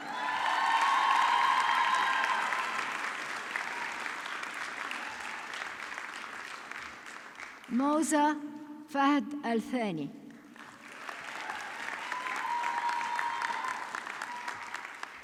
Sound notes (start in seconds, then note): 0.0 audience clapping; 10.3 audience clapping